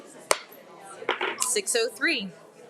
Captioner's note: gavel thudding